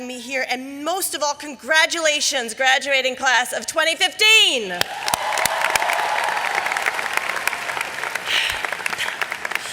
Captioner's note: clapping!